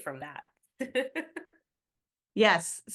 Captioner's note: chuckles